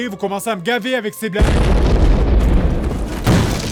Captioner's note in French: Explosion